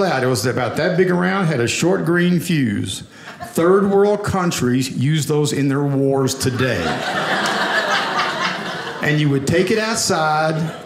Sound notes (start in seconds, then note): 6.4 audience laughing